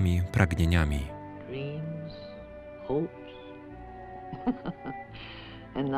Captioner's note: laughs